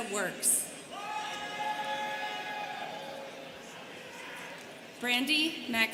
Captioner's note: students cheering